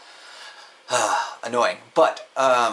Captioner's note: sighs